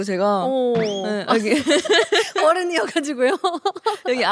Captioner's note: haha